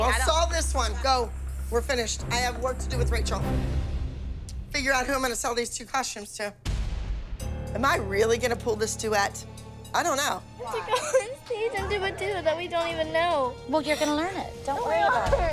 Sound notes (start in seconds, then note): 11.0 crying